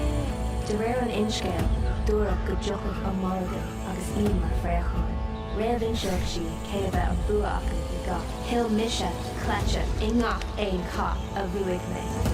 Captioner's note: foreign language